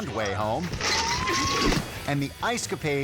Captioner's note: woman screaming